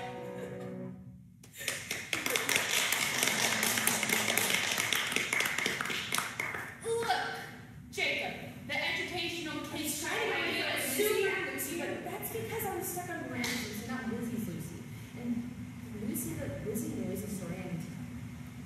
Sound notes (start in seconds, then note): 1.6 applause; 2.1 laughs